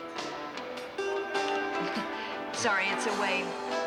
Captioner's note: chuckles